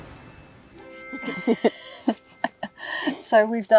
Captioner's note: giggles